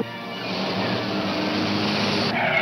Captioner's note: tires screeching